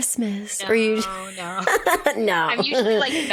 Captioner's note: laughs